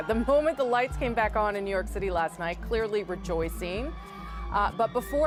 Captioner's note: cheers and Applause